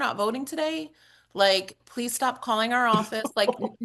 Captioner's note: laughs